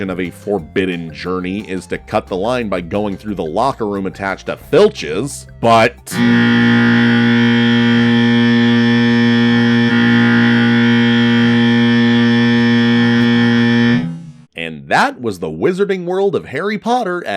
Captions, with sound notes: of a forbidden journey is to cut the line by going through the locker room attached at Filch's, but-- [alarm blaring] And that was the Wizarding World of Harry Potter